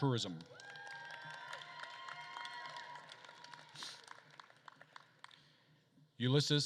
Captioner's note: attendees cheering and applauding